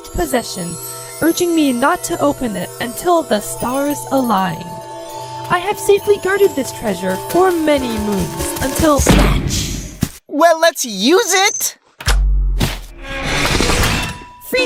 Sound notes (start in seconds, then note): 7.8 Gelatin snatches the treasure, "SNATCH" sound effect plays